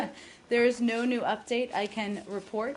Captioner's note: laughter